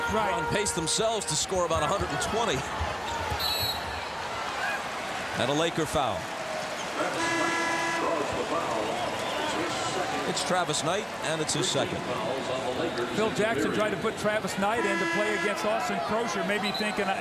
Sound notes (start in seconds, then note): 3.4 whistle blows